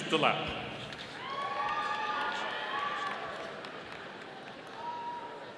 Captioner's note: audience applauding